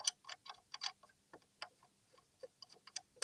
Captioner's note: clicking